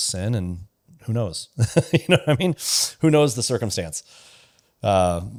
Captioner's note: laughs